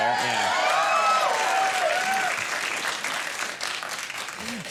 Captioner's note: crowd cheers